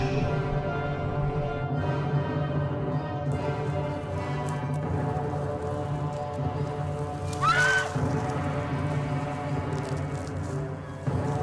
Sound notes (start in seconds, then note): 7.2 screams